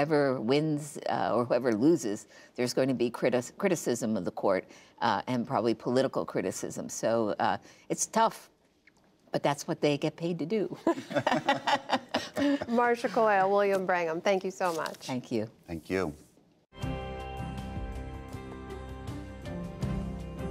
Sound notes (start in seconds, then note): 10.8 laughter